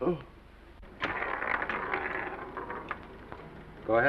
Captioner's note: pinball rattles